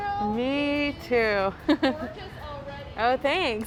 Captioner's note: chuckling